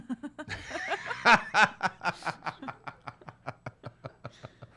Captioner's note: laughs